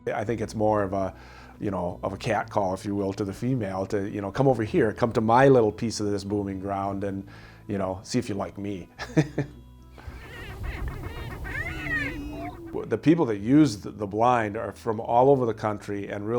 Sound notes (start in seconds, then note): 10.0 laughs lightly; 10.0 prairie chickens whooping